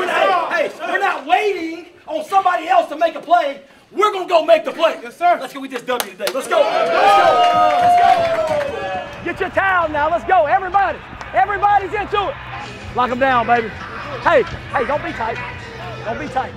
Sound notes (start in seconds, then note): 7.4 cheering